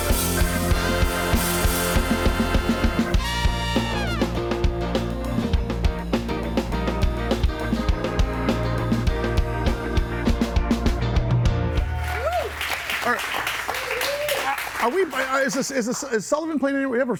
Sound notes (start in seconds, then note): 0.0 audience applauds; 0.0 upbeat music; 4.7 audience applauds; 4.7 upbeat music; 8.3 audience cheers; 8.3 laughs